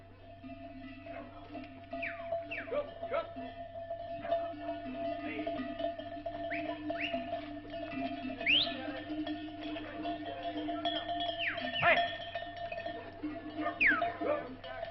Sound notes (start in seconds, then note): 0.6 AUDIO - collar bells, whistle calls, dog barks with excitement